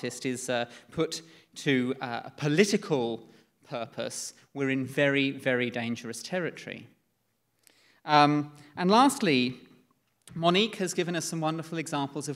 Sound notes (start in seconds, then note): none